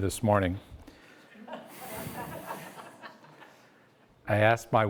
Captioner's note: audience laughs